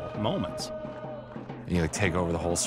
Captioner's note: chanting and cheering